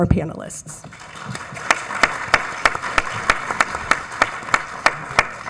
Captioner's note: audience applauds